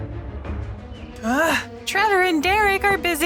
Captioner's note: grumbles